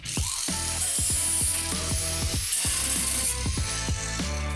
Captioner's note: grinding continues